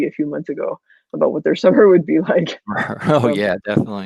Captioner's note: laughs